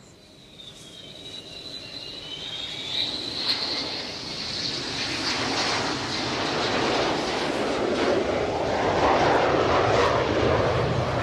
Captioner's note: loud sounds of military planes